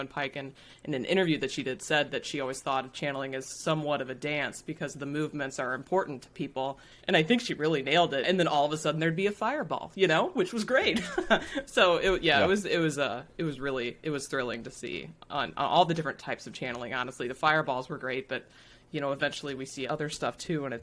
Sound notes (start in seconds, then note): 11.7 laughs